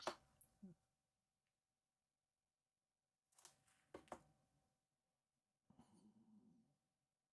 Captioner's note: silence